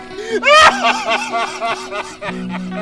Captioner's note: teacher laughing